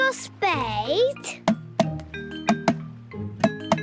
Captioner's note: tapping